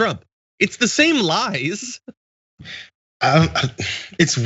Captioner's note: laugh